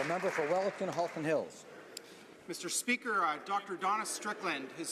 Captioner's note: applause